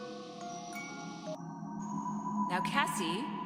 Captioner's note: none